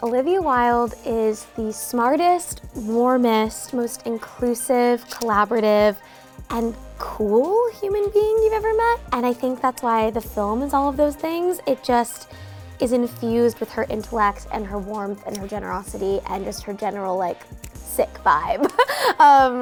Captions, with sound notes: Olivia Wilde is the smartest, warmest, most inclusive, collaborative, and cool human being you've ever met. And I think that's why the film is all of those things. It just is infused with her intellect and her warmth and her generosity and just her general like sick vibe (laughs).